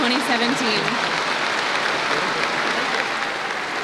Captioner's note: applause